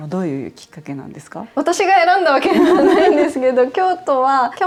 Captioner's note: laughs